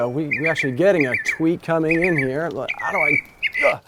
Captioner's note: bird chirping